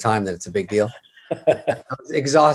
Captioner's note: Kevin chuckles